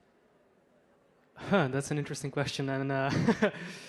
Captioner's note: laughs